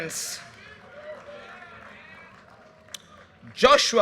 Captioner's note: audience cheers and applause